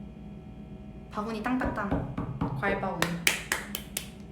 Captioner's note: gavel sound effect